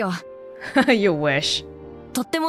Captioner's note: chuckles